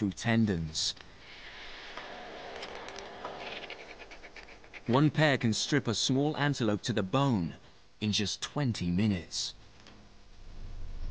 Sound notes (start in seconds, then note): 0.2 suspenseful music; 3.9 vultures screech